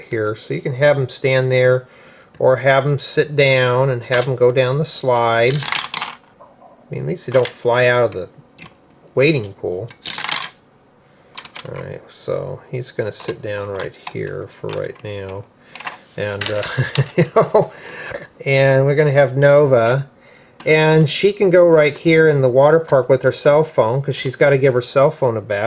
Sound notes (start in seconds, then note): 16.6 laughter